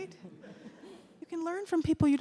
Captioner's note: audience laughs